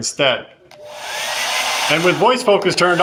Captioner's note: hairdryer blowing